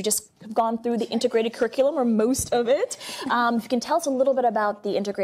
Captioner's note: laughs